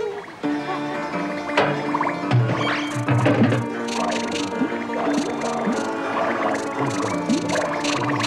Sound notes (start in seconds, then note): 0.7 comical whistling and whirring; 3.4 rattling